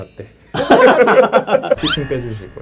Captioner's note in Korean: 웃음